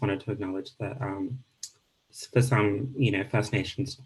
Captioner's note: speaking Indigenous language